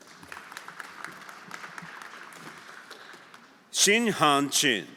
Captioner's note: everyone applauding